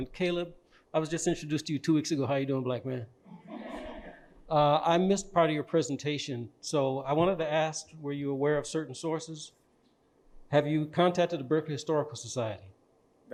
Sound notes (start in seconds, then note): 3.4 audience laughing